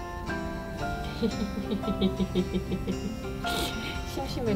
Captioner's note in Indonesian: tertawa